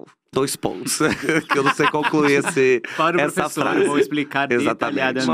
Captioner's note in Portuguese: risos